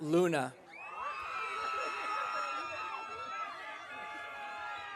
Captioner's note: audience cheering